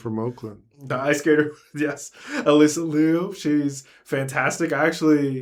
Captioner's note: laughs